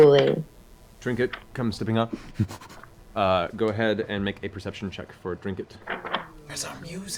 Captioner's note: sniffing sounds